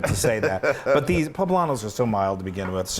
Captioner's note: laugh